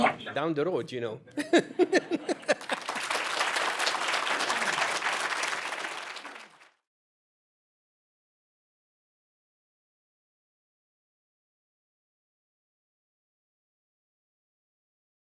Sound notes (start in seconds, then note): 1.2 laughter; 1.4 applause